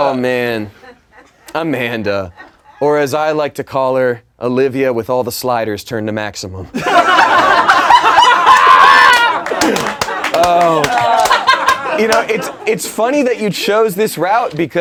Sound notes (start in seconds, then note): 6.8 laughing